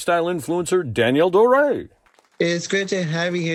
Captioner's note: audience clapping